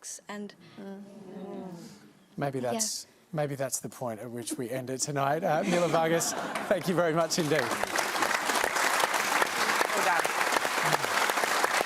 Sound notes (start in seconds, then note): 2.6 crowd murmurs; 9.5 applause